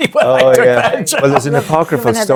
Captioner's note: laughs